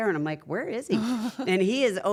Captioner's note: laugh